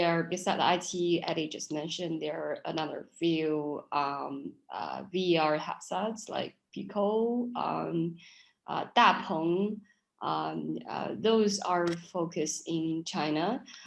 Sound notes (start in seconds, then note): 5.6 speaking in foreign language